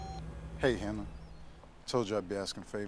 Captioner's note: machine beeping